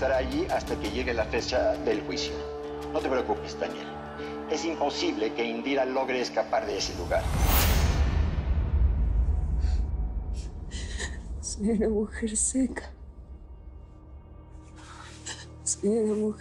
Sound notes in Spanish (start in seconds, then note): 10.7 Sollozos